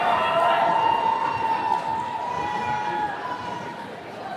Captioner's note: attendees cheering